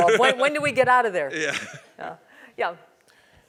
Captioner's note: laugh